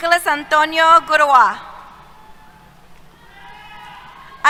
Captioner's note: cheers